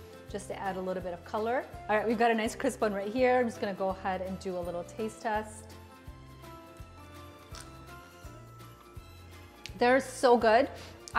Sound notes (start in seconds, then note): 7.4 fry crunching